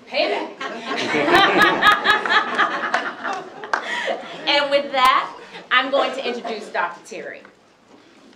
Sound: laughs

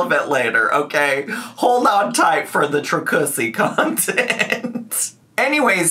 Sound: laughs

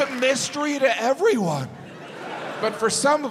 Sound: audience laughs

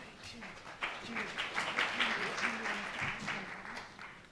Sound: audience applauding

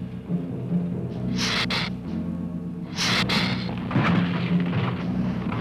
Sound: Gila monster hissing

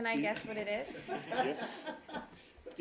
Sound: laughter

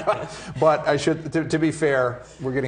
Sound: everyone laughs

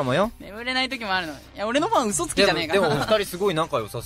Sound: laugh

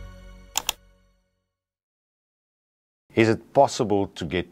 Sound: mouse clicking

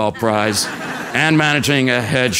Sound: laugh

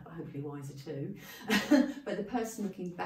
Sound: laughing

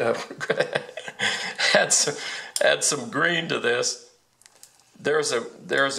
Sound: laughs

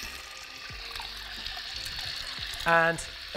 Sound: water rushes

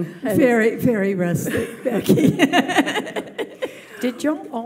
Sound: laughs

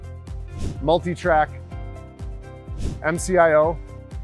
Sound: screen whooshing

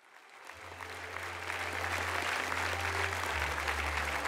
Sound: audience clapping

